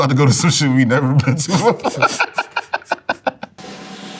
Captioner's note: laughs; cymbals crash; drum rolls